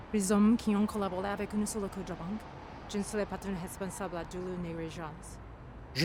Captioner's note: man speaking in foreign language; Michiko speaking in foreign language